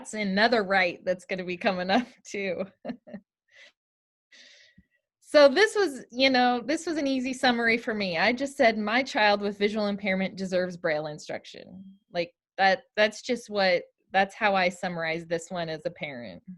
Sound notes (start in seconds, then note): 2.5 laughter